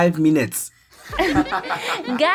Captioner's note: laughing